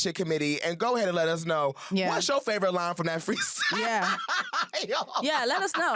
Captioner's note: laughs